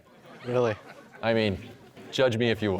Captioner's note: audience laughter